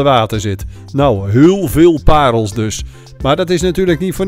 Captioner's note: voiceover